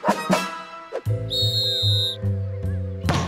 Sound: whistle blows

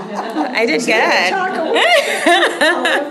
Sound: laughter

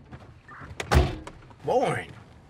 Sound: door slamming

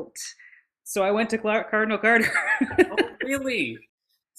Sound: laughs

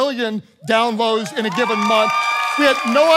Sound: congregation cheering

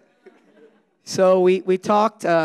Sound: audience laughing

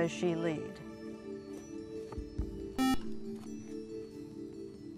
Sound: buzzer

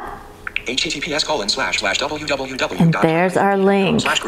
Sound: VoiceOver speaking

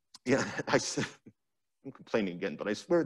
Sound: chuckles

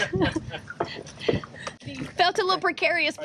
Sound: laughter

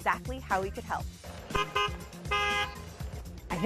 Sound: horn beeping

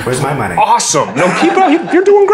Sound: laugh

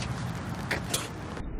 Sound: spits

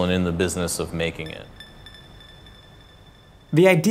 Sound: gentle chimes

